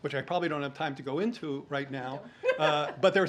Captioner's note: laughs